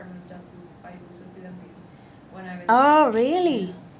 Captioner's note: speaks Spanish